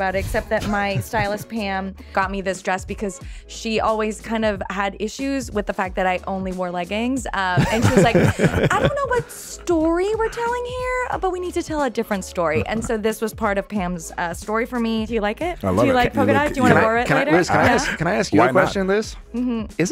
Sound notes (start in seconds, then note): 7.5 laughing